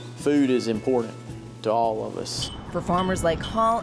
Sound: flagpole clinks

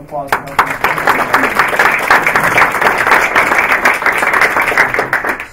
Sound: applause

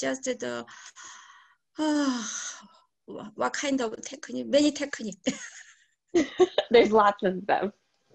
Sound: sighs; laughs

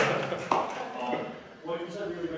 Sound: clapping

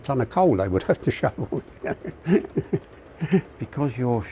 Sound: laughs

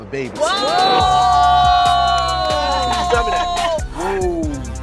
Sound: all exclaiming

